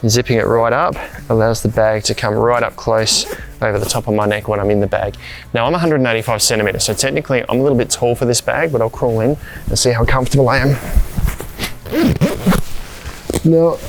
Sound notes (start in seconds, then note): 3.0 zipper does up; 10.9 bag rustling; 11.2 zipper does up